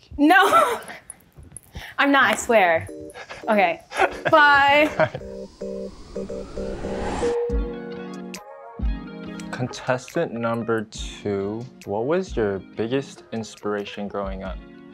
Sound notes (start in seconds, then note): 0.7 laughs; 3.8 laughs; 7.6 chill music continues